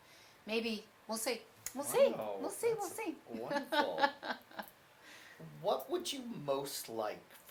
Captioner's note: laughs